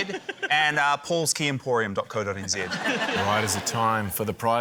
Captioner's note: laughter